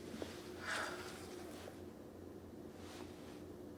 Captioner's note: sighing